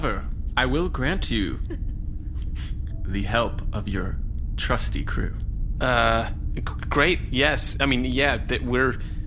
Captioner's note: laughter; stammering